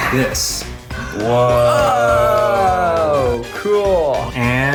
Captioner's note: gasping